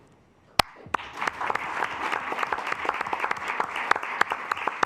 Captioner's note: assembly clapping